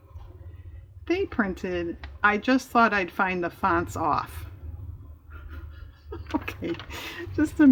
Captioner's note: laughs